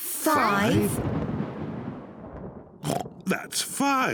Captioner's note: thunder rumbles; oinks